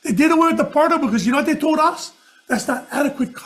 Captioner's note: none